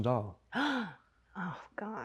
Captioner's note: Greta gasps